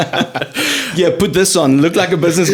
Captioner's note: laughing